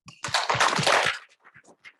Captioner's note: audience applauds